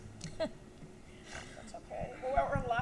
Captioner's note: laughs